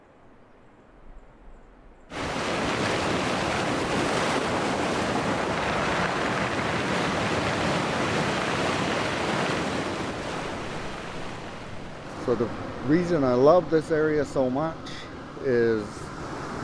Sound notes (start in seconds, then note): 2.5 water flowing